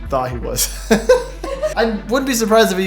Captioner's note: laughing